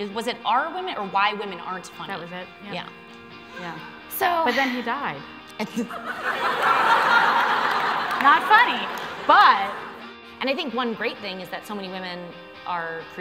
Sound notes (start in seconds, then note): 5.2 stutters; 5.7 laughter